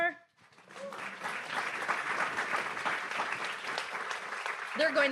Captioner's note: audience applauds